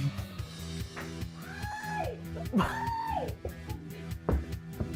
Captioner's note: shouting; laughs